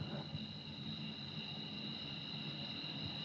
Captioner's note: crickets chirping